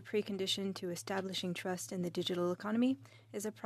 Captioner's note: speaking French